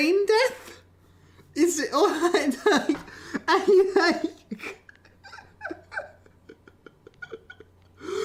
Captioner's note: laughter